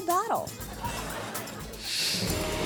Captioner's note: audience laughing; graphics whooshing